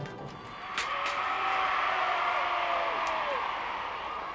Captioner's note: crowd cheering